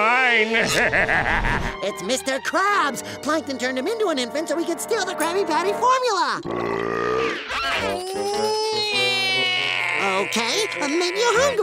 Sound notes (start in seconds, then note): 0.3 evil laugh; 6.6 crying